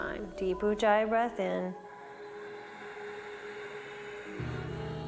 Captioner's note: breathes